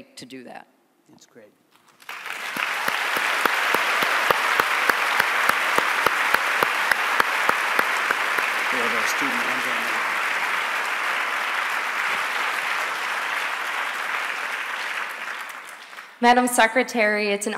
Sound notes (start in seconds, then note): 4.5 applause